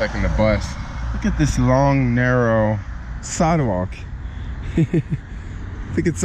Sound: laughing

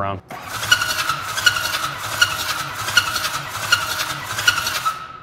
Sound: engine cranking

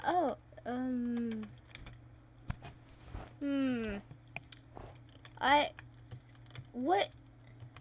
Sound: villager noises

